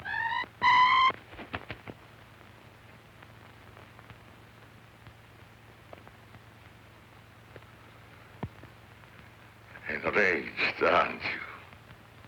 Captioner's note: chirping